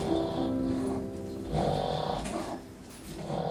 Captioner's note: Lola snores